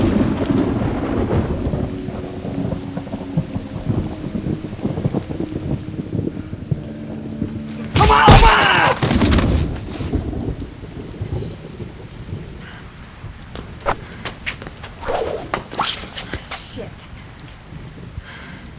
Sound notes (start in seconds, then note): 0.2 thunder crackling; 8.6 Ramsay vocalizing; 8.6 fists bashing